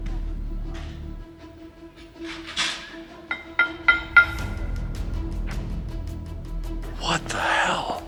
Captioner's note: metal pot banging